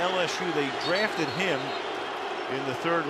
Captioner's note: booing